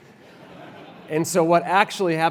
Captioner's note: laugh